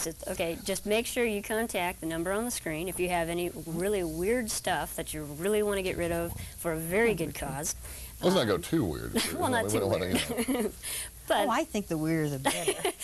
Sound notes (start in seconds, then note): 9.2 laughing